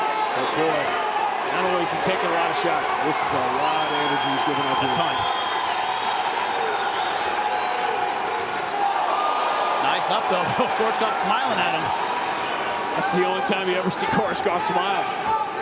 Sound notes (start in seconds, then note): 7.0 audience cheering